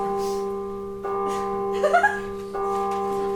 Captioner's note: bong! Bong! Bong! Bong! Bong!; bong! Bong! Bong! Bong!; bong! Bong! Bong! Bong! Bong! Bong!